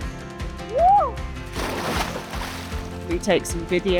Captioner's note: cheers and a splash